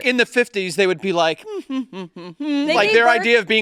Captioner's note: hums